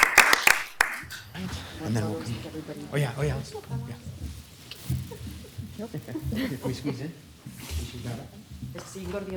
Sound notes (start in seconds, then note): 3.0 distant chatter; 5.2 distant chatter